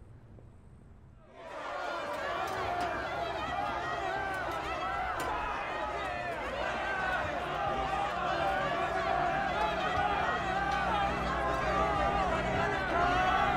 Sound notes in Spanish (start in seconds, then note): 1.2 Multitud protestando